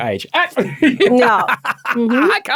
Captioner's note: laughing